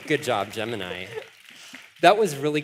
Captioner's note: applause